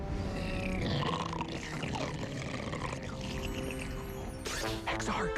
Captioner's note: growling